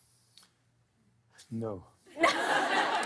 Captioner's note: laughter